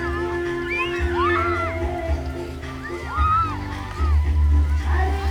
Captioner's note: children exclaim